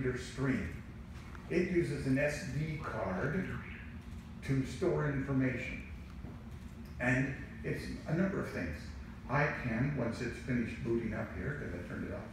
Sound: long pause then machine speaks

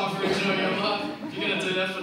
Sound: audience laughs

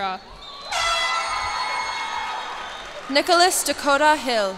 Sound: cheers and applause

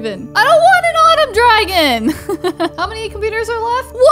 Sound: laughs

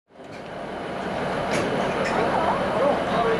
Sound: train sounds

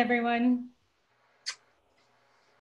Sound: kissing sound

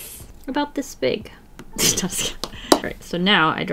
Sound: laughs

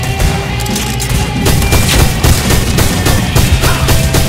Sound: gunfire

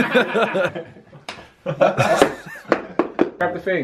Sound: laughing; bottle plops; slapping hand

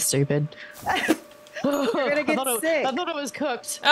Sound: laugh

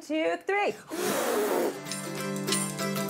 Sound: blows

